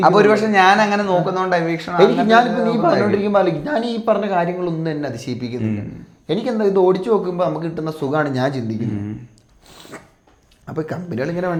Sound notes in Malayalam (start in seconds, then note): 6.6 തൊണ്ട ശരിയാക്കുന്നു; 8.8 ചീറ്റുന്നു